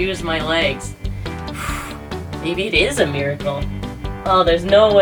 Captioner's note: exhalation